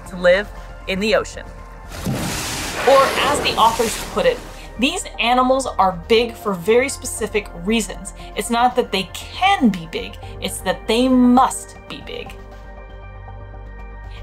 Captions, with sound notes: to live in the ocean. (background music) (noise of whale spouting water) Or as the authors put it, "these animals are big for very specific reasons. It's not that they can be big, it's that they must be big." (background music)